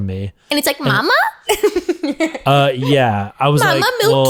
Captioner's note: laughs